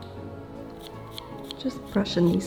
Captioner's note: brush rustling